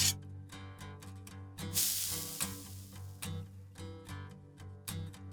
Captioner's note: sizzle